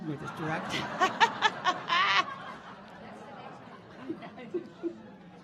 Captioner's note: audience laughing